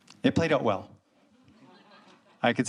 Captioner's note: audience laughs